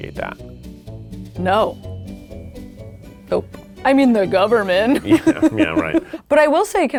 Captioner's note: laughs